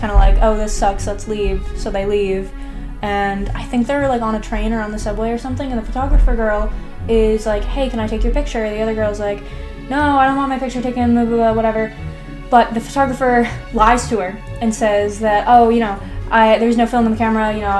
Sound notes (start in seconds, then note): none